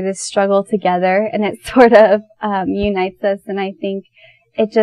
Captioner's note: laughs